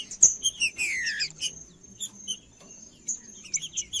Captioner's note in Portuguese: trinca ferro cantando